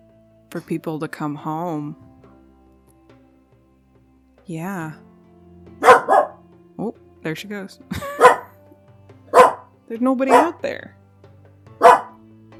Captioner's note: barking